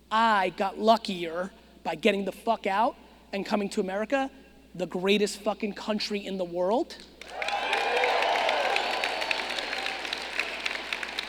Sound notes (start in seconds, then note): 7.2 audience cheering